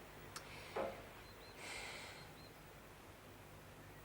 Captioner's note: sigh